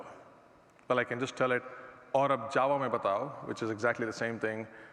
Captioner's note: hinglish